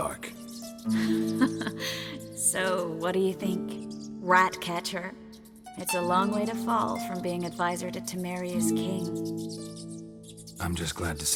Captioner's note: laugh